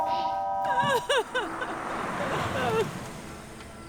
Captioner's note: kid clears throat; woman sobbing; somber music playing